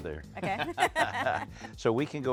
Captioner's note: both laugh